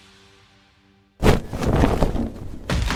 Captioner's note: parachute opens